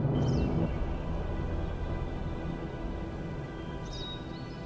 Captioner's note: birds chirping